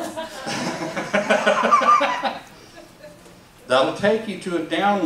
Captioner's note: laugh